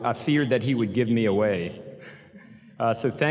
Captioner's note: chuckles